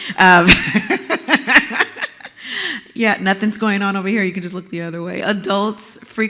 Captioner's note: laugh